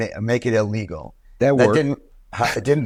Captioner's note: laughs